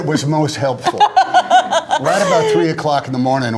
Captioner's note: laughter